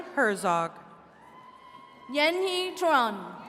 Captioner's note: attendees cheering